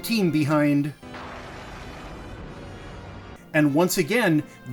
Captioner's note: thunder